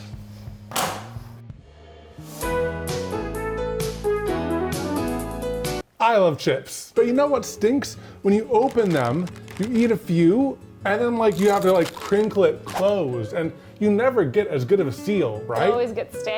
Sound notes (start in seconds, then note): 0.1 light music continues; 1.7 chair clinking; 2.1 light music